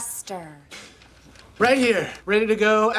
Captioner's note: excited gasp